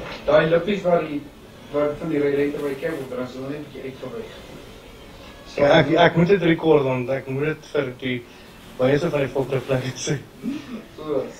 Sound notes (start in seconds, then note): 1.0 foreign language